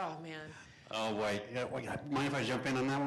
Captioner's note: voiceover